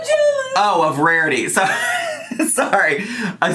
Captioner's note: laughs